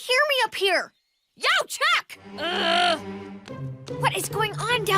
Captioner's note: growls